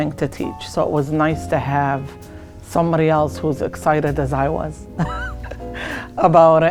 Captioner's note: laughs